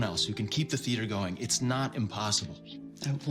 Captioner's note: none